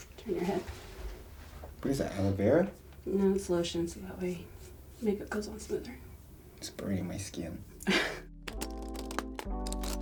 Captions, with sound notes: - Turn your head. - What is that, aloe vera? - No, it's lotion so that way makeup goes on smoother. - It's burning my skin. (laughs)